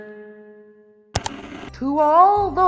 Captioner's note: static; ka-chunk